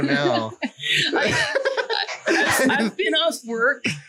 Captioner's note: laughs